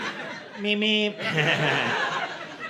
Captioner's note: laughter